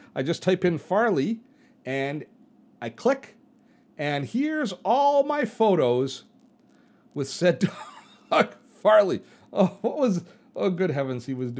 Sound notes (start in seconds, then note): 7.6 laughs